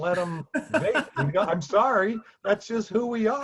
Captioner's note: laughs